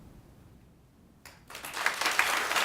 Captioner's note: ^applause^